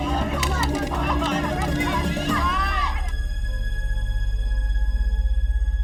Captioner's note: everyone yelling